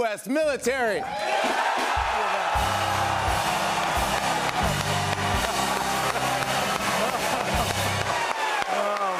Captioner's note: cheers and applause